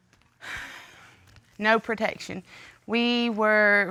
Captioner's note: sighs